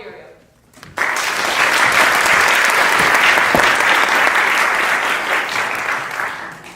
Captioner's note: applause